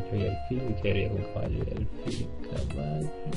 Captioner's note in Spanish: balbuseando